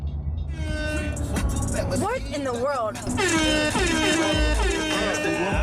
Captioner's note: upbeat hip hop music; horns blare